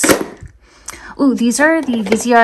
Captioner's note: item thudding